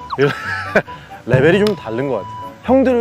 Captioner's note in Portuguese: Rindo em descrença